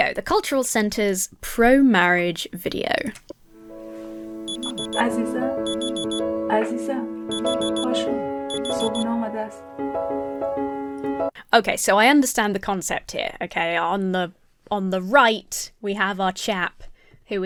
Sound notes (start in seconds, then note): 3.5 alarm beeps; 3.5 uplifting music; 5.0 wife speaking softly